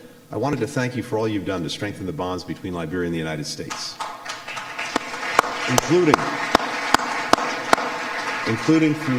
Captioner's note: applause